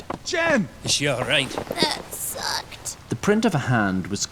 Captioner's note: croaks